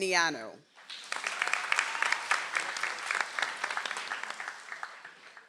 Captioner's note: audience applauds